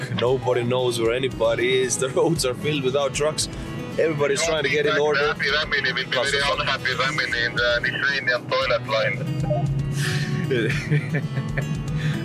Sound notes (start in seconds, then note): 6.4 someone speaking over the radio